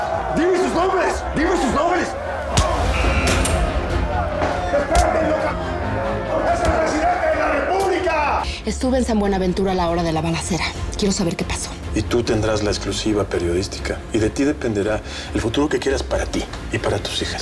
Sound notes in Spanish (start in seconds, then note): 2.5 Golpes